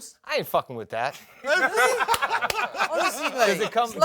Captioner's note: laughter